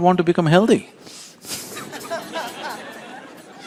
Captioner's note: laughter